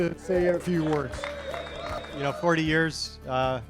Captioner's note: audience applauding